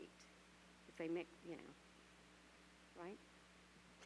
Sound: speaking faintly

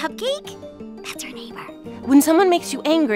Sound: whispers

